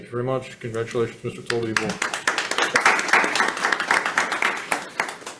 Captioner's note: hands clapping